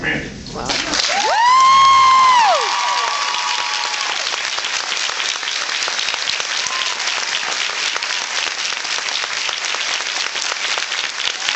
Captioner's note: cheers and applauds